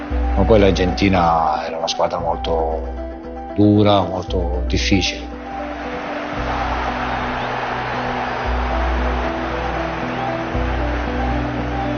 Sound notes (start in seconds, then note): 7.1 crowd cheering